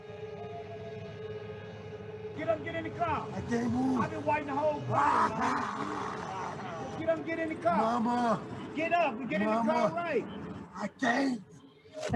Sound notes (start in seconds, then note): 4.9 man 2 groaning